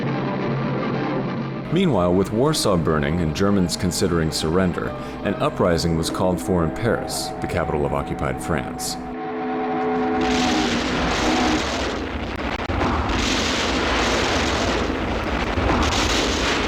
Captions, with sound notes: Meanwhile, with Warsaw burning and Germans considering surrender, an uprising was called for in Paris, the capital of occupied France. (explosions booming) (guns popping)